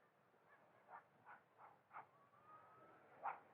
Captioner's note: dogs Barking